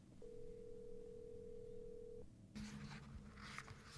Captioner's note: phone rings